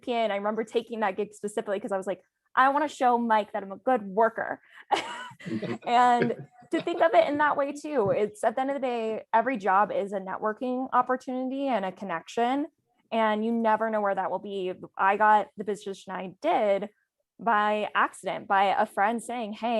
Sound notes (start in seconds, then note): 4.9 laughs